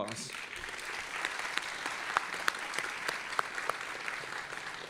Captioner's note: audience applauding